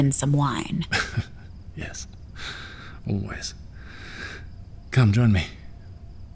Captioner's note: laughs softly